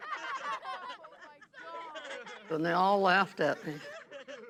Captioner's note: laughing